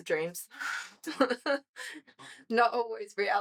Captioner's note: laughs